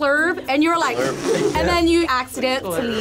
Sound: group laughs

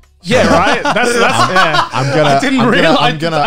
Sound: laughter

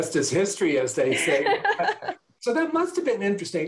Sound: laughter

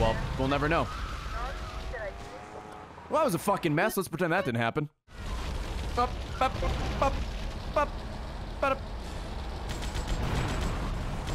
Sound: stress noises

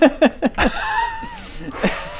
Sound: laughs in addict

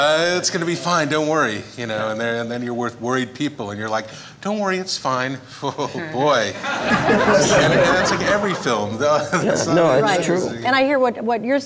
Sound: laughter

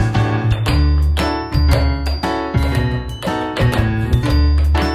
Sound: rhythmic tap dancing

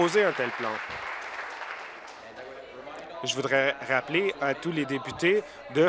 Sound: applause

